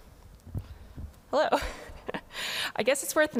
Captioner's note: laughs